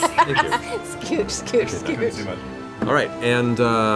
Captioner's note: laughs